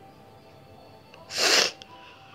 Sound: sniffling

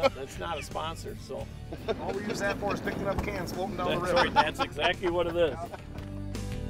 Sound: laughing

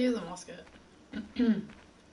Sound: clears throat

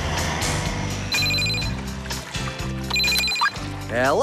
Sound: phone Rings

